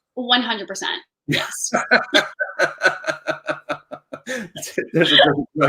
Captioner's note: laughing